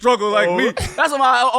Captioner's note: laughing